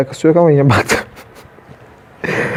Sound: laughs

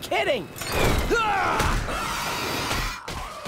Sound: grunting

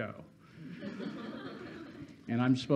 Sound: students laughing

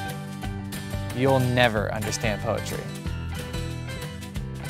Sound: voiceover

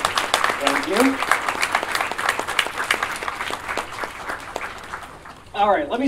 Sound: applause; applause continues

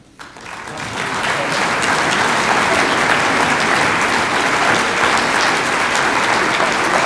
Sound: audience applauds

